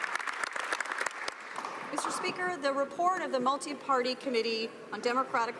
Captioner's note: some Applause